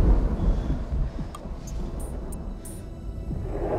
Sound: thunder rolls

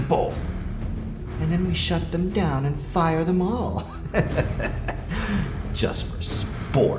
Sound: laughs

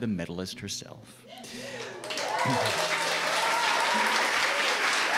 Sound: applause

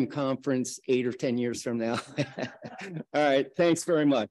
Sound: laughs

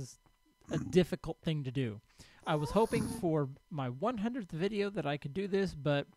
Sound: ghast squalls; grunting continues; ghast squalls

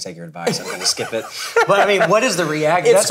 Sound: laughing

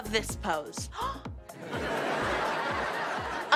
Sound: audience laughing

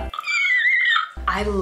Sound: squeals

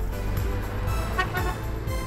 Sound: car honking

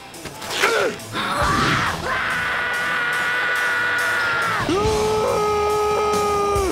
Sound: screaming

